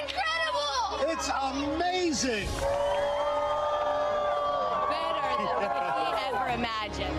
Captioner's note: cheers and applause